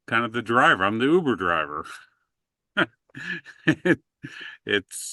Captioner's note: chuckling